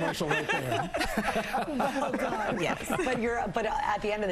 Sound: laughter

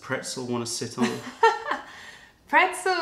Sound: laughter

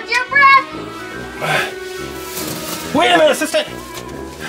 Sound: sighs loudly

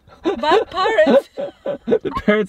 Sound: chuckling

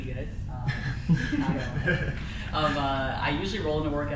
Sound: crowd laughs

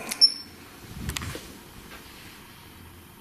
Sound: loud beep

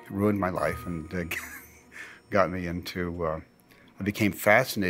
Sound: laughs

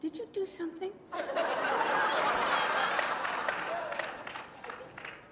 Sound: laughter

